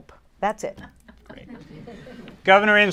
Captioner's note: laughter